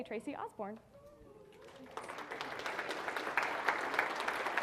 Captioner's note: audience applauding